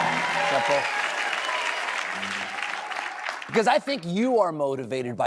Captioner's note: cheers and applause